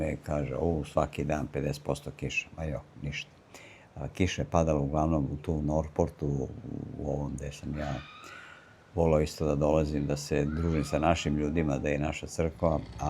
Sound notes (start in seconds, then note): 8.2 sigh